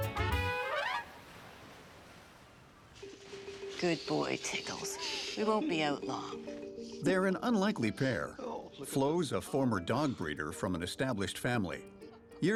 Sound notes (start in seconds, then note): 0.5 waves rushing